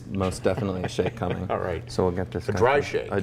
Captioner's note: laughs